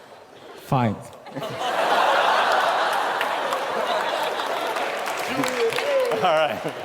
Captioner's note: laughter; laughter and applause